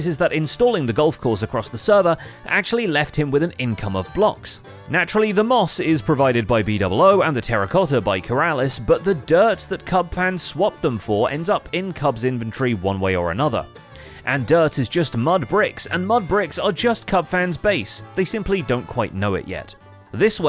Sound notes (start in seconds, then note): none